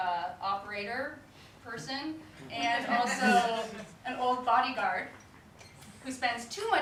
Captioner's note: audience laughter